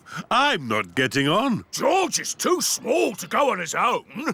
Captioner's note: speaking Portuguese